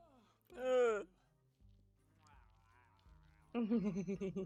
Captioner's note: disgusted noises